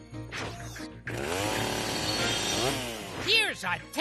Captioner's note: chainsaw sound